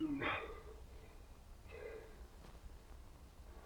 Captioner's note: Karl groaning